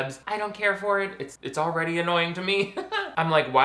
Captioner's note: laughs